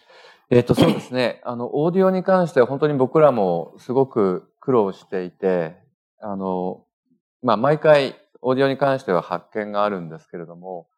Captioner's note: speaking japanese